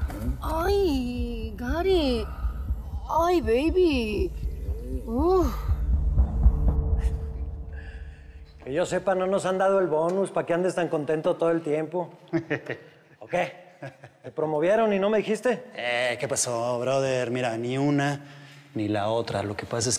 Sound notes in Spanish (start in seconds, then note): 12.2 Risas